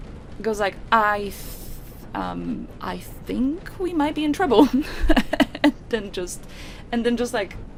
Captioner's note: laughs